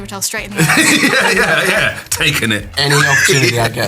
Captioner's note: laughs